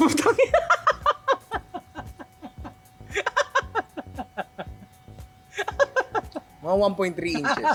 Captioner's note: laughs